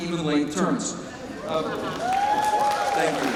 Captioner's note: cheers and applause